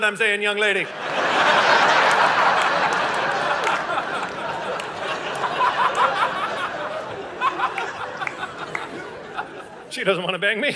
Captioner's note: audience laughing